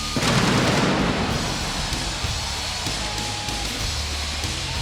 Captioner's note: pyrotechnics blast